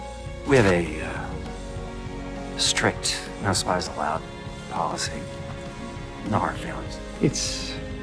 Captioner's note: voiceover